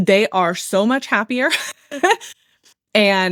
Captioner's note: laughs